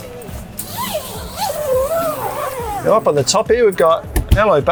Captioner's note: zip zipping